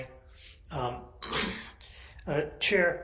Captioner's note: clears throat